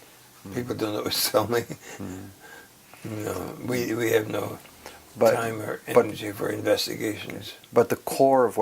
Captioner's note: laugh